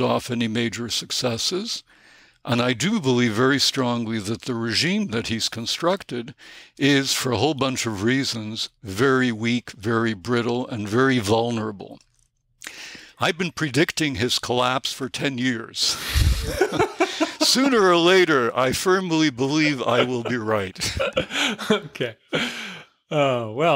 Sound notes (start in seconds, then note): 16.0 chuckle